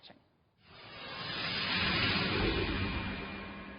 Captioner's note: whooshing